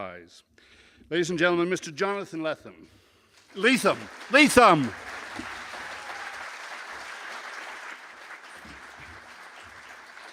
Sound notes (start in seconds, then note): 3.4 applause